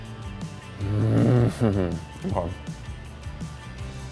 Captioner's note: humming